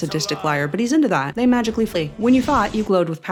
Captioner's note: whooosh